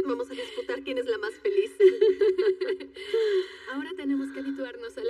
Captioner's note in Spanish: Ríe